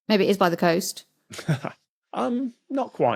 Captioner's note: snickers